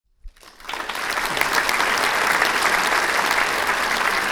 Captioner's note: audience clapping